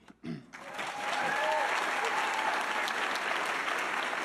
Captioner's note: audience applauding